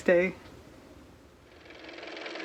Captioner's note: car motor